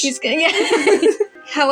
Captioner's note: giggle; laugh